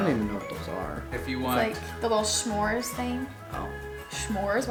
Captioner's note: male Voice